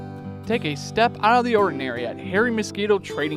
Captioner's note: relaxed guitar music; voiceover